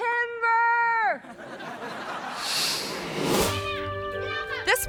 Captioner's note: audience laughing; screen whooshes